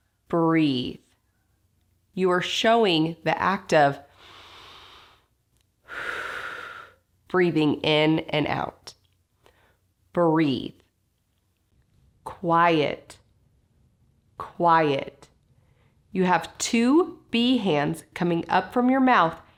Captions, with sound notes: Breathe. You are showing the act of [TAKES A DEEP BREATH] breathing in and out. Breathe. Quiet. Quiet. You have to B-hands coming up from your mouth,